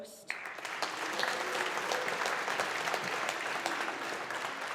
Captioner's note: audience applauding